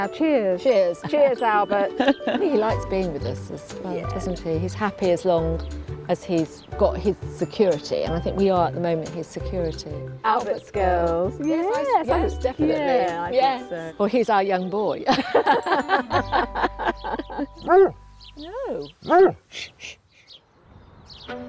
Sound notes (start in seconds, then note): 15.0 both laughing; 19.0 dog barking; 21.2 gentle upbeat music